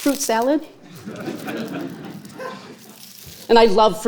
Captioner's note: audience laughing